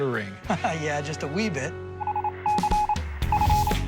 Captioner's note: laughs